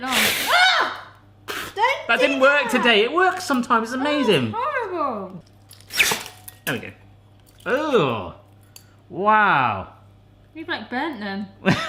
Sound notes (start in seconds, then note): 0.0 blowing; 0.4 yells; 5.9 blowing